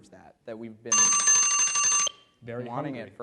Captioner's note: alarm rings